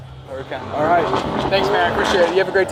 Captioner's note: car revs